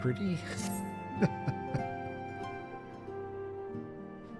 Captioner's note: laughs